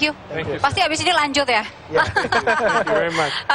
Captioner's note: non-english speech; laughter